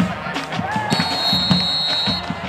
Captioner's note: whistle